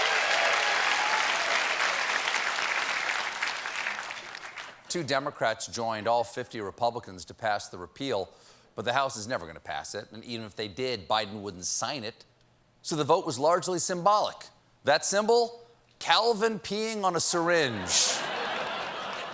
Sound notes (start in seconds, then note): 0.0 cheers and applause; 0.0 applause